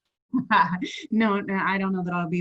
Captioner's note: laughing